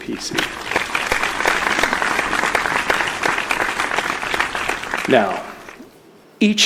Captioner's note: applause